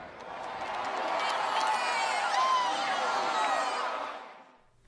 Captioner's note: crowd cheering